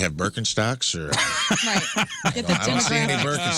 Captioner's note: laughing